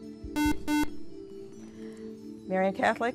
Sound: buzzer

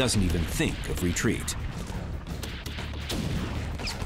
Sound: gunshots

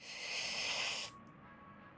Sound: inhales

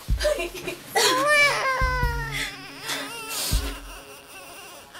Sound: baby cries

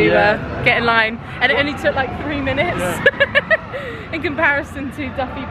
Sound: laughs

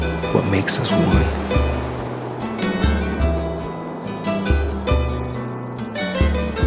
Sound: wind

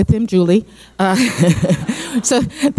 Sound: laughing

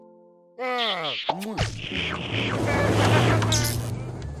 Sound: laughs

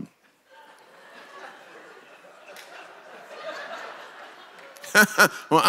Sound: congregation laughs; laughs

